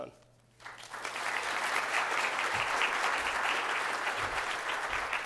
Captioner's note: applause